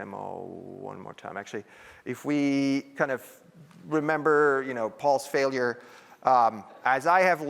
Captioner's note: laughter